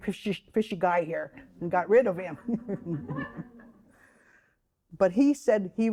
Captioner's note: all chuckling